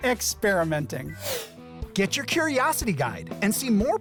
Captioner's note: animation whooshing